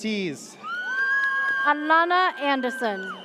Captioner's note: audience cheers